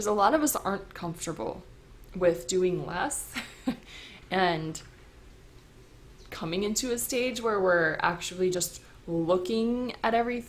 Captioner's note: chuckle